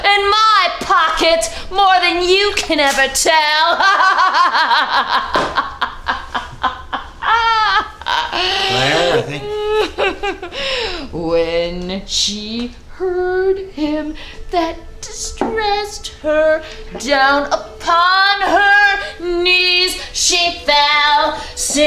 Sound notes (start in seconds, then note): 3.6 Claire laughs